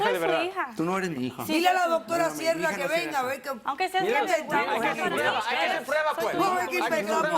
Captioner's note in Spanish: Hablan al unísono